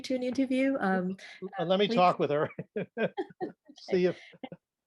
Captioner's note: laughs